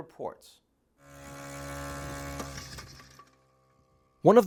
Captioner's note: drone humming